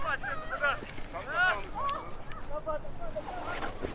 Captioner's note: voices chattering in the distance